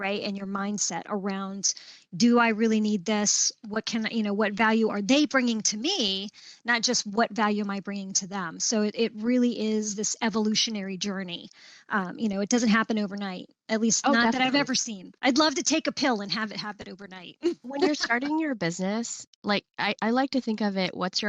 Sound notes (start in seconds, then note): 17.5 laughs